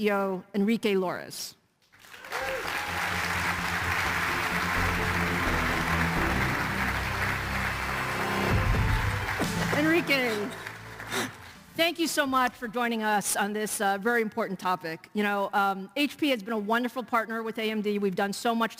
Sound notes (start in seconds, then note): 9.6 applause